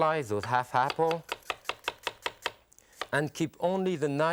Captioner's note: knife slicing